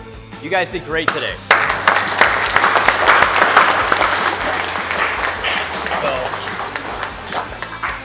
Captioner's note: applause